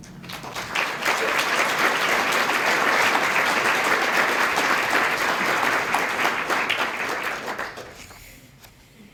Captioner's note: applause